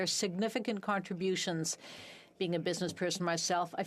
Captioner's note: speaking French